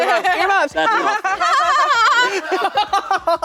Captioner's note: fake laughing; everyone laughing